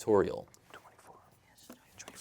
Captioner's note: whispering; all whispering